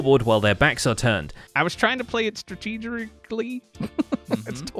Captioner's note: laughs